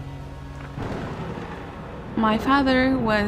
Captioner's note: thunder rolls